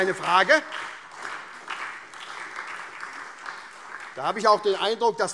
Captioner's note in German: Beifall SPD